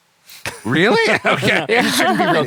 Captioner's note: laughter